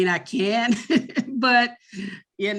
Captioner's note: laughs